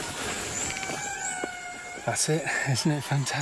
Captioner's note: lemur cry